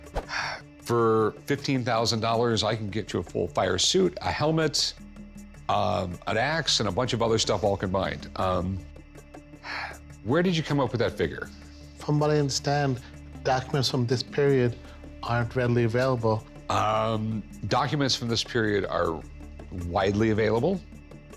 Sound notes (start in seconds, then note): 8.9 sighs